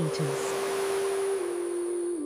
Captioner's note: waves lapping